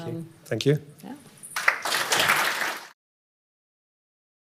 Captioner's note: audience applauds